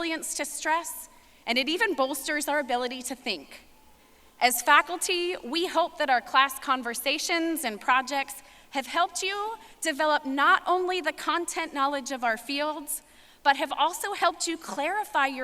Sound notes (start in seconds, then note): none